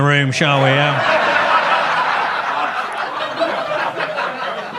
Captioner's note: audience laughs